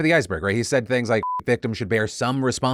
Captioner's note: beep